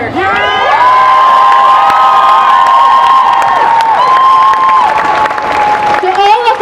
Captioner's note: cheering